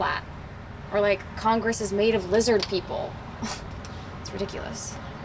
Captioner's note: chuckles